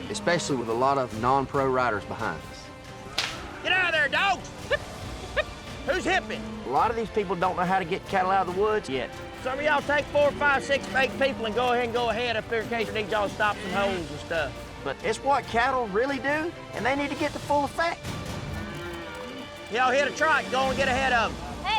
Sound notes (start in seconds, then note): 5.8 shouting